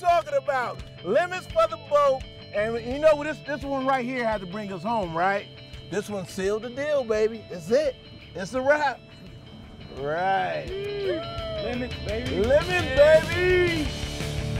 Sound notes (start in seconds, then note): 9.9 whooping